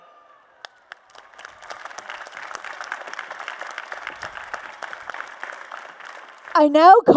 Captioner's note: applause and Cheers